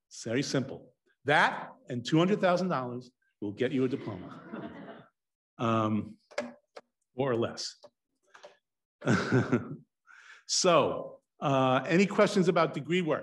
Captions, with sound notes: It's very simple that and $200,000 will get you a diploma. (students laugh) More or less. (chuckles) So any questions about DegreeWorks.